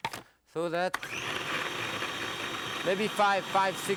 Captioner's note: food processor whirring; food processor clatters